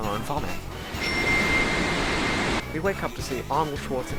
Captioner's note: slowed ding sound effect with tv static fading in